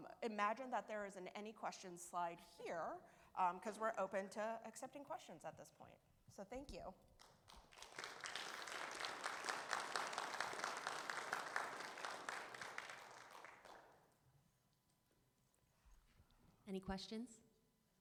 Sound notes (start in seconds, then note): 7.2 audience applaud